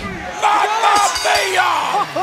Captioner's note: bell ringing